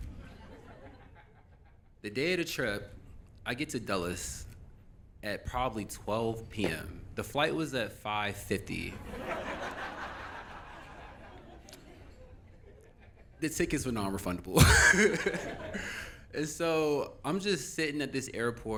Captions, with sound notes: The day of the trip, I get to Dulles at probably 12 p.m. The flight was at 5.50. (Laughing) The tickets were non-refundable. (Laughing) And so, I'm just sitting at this airport,